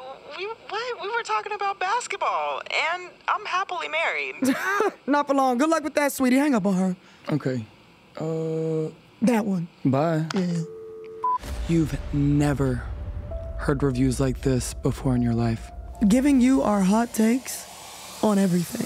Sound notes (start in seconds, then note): 4.1 laughs